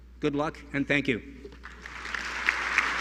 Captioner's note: applause